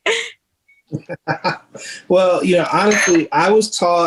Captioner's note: chuckles